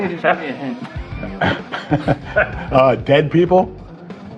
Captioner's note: laughs